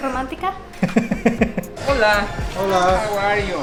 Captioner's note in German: Gelächter